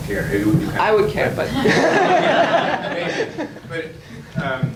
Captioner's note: audience laughs